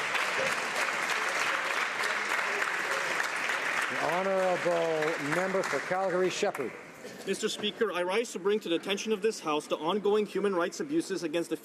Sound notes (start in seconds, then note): 1.9 applause